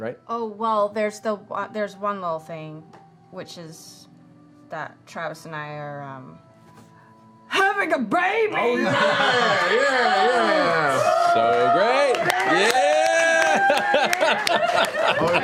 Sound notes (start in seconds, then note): 8.7 cheering